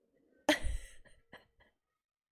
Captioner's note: laughs